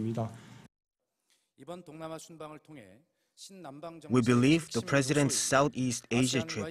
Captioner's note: Korean